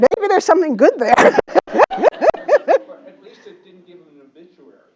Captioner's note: laugh